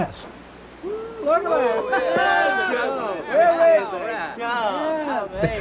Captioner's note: indistinct cheering